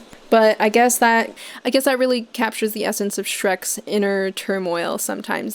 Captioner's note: none